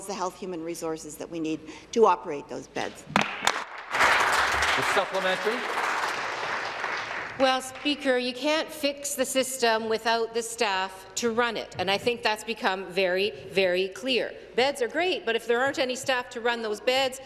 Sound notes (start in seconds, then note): 7.1 applause